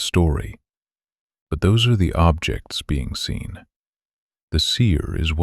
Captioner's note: quiet and steady